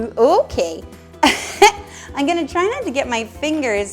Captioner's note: laughs